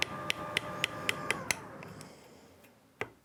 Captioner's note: whirring dies down